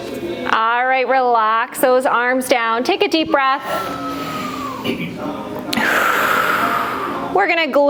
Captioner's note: breath